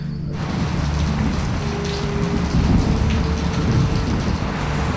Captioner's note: sound of light rain falling